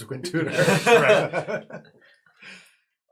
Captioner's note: all laugh